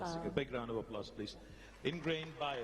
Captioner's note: applause